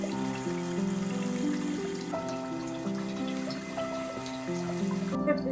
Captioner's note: water splashing